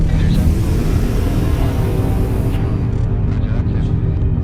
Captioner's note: spaceship whooshing; suspenseful atmospheric music